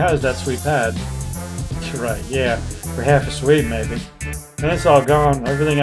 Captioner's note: scoffs